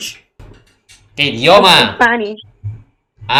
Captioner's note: Spanish